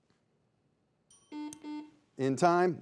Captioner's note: bell dings; buzzer beeps